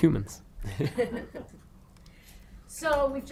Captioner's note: girl chuckling